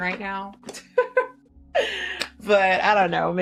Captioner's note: laughing